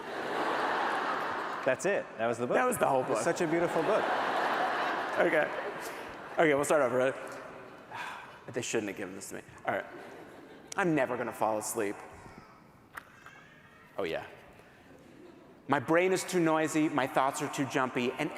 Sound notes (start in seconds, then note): 0.0 laughter; 4.3 laughter